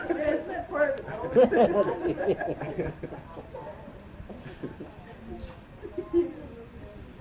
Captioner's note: laughter; laughter